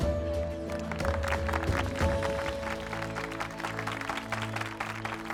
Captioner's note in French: applaudissements